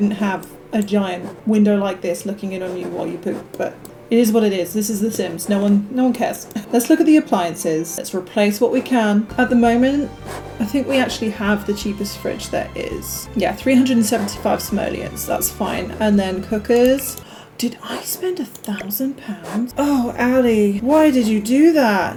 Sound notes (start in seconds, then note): 17.2 gasp